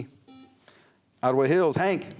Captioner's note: buzzer